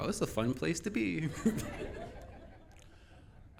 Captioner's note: laughing